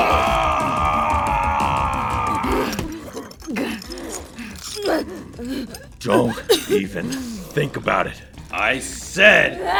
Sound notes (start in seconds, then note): 2.5 both pant and grunt